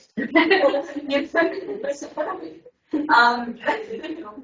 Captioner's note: everyone laughing